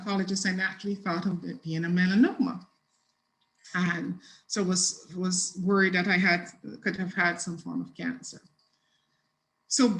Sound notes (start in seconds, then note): 2.3 mutters